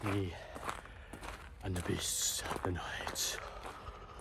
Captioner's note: horror voice